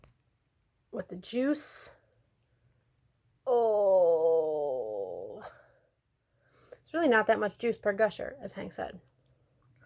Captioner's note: groan